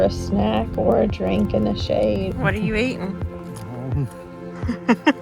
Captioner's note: laughs